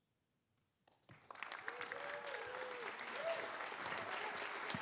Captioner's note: applause